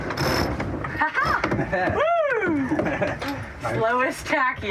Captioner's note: both laugh